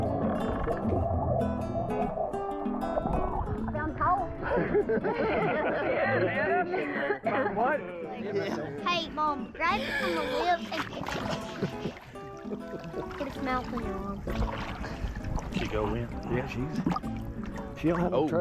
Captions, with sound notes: - I found the hole. (all laughing) - Hey mom, Grab it on the lip, get its mouth on your arm. - She go in? - Yeah, she's, she don't have any trouble. She's all the way in too.